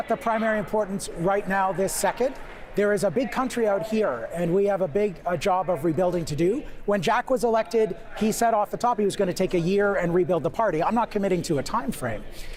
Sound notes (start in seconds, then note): none